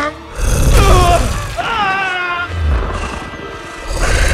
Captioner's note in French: grogne, puis hurle